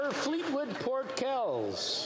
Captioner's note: applause